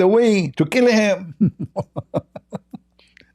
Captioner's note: Ketawa